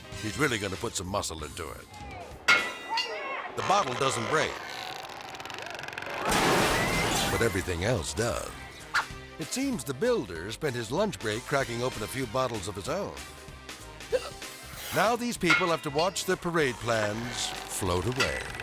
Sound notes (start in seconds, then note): 2.5 bottle thuds; 6.4 sculpture thuds